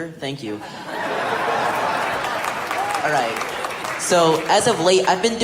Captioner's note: audience laughter and applause